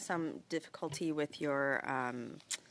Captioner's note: speaking French